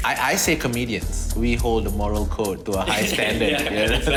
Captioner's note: chuckles